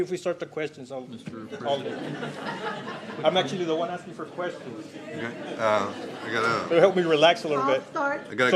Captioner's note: laughter